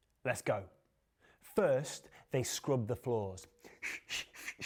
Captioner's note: whistles